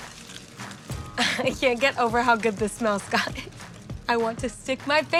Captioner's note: chuckling